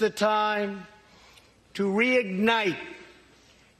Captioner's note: none